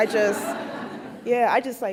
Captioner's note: laughs